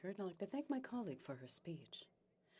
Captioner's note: speaking French